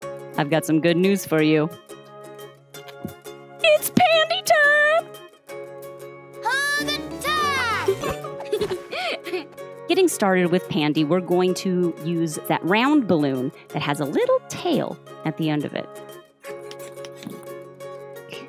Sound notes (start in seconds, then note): 7.8 giggling